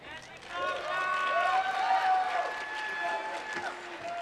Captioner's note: applause